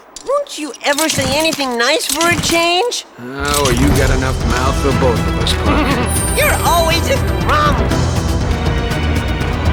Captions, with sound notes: Won't you ever say anything nice for a change? Ah, well you've got enough mouth for both of us, Puck. (Chuckle) You're always a grump!